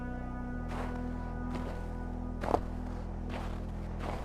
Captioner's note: footsteps in the snow